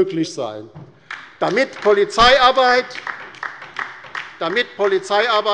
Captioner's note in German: Beifall bei der LINKEN